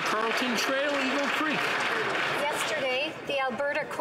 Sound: some Applause

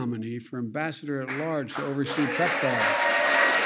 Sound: applause

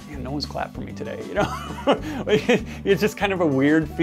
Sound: man chuckling

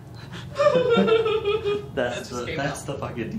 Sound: laughs

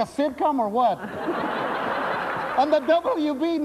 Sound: laughter

